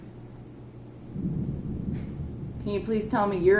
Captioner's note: thunder